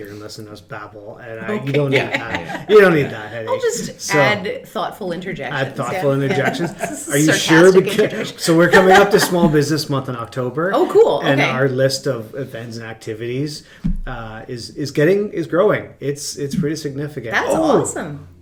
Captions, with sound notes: or else you'll just sit here and listen to us babble and you don't need that. You don't need that. - (laughs) Okay. I'll just add thoughtful interjections. - Add thoughtful interjections? - Sort of sarcastic interjections. - Are you sure? So we're coming up to small business month in October. - Oh, cool! - And our list of events and activities is getting, is growing. It's pretty significant. - That's awesome.